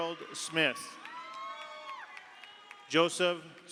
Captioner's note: audience cheers; audience applauds